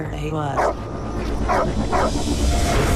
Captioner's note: barking continues